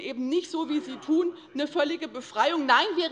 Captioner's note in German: Zurufe von der CDU